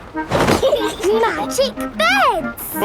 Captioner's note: laughing